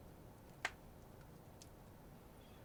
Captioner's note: fire crackles